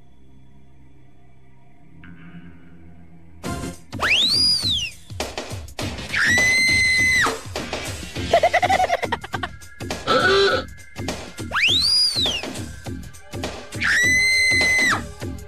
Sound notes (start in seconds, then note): 4.0 party whistle; 6.1 woman screaming; 8.2 silly laugh; 10.0 car horn; 11.4 party whistle; 13.8 woman screaming